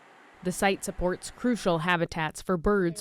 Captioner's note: voice-over